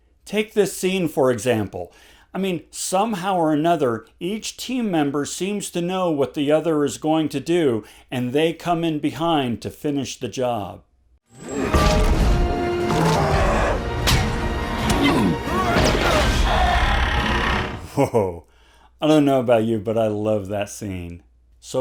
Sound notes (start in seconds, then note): 11.3 dramatic music; 13.3 Hulk roaring; 14.8 Thor screams